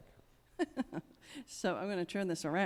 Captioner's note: chuckles